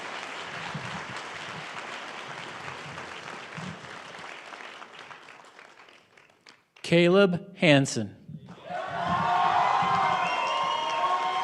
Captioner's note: cheering and applause